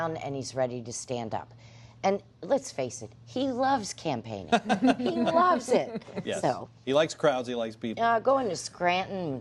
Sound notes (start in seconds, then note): 4.5 laughter